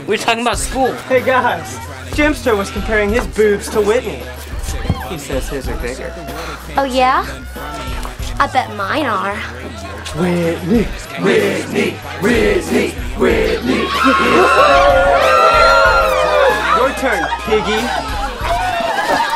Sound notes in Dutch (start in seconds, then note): 13.4 cheers